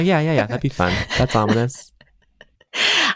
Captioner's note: michaela laughs